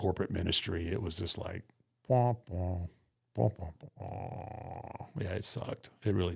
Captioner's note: humming